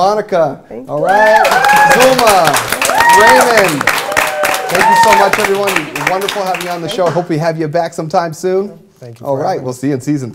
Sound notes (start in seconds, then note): 0.9 cheers and applause